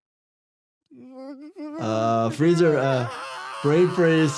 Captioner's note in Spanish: Peter gime